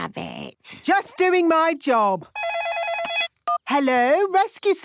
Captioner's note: phone ringing